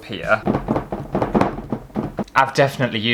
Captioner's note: canvas Smacking Against The Table